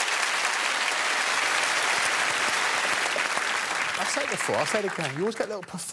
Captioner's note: audience clapping